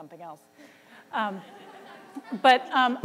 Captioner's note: laughter